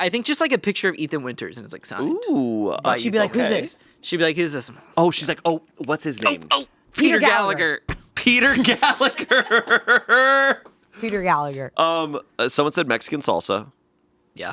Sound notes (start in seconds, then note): 8.5 laughing